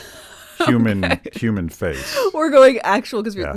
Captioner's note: laughing